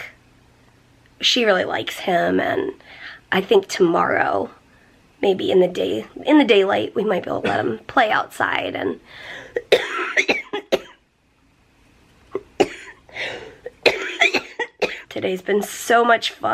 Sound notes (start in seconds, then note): 9.5 coughing